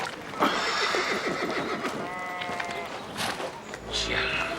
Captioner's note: Shinar sighs